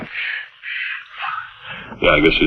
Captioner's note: Dusty gasping